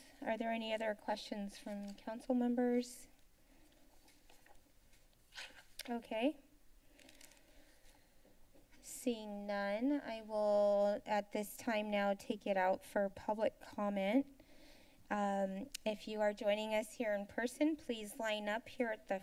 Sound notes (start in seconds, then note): 3.6 rustling sound; 15.1 clicks tongue